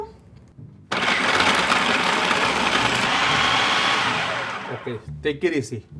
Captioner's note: food processor whines